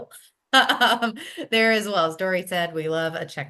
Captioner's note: laughs